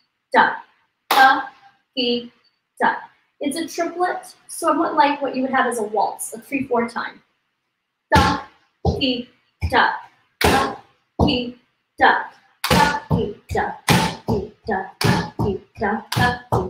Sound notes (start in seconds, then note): 0.0 claps; 0.3 speaks in foreign language; 8.8 stamps foot; 9.5 stamps and counts in foreign language